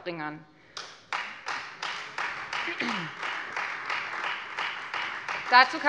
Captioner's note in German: Beifall Freie Demokraten